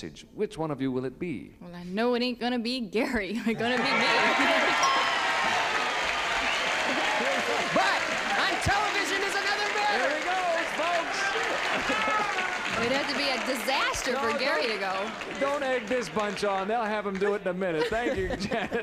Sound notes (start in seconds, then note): 4.3 applause and cheering; 4.8 ding